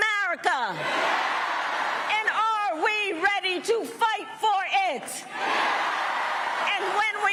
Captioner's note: cheering and applause